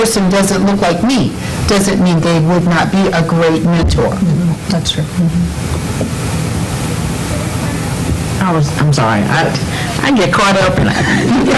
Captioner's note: laughter